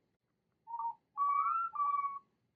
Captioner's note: Luna and Tsukiko repeat "thanks for watching," in their garbled robotic voices